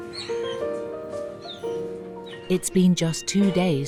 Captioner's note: bright music; Milo cries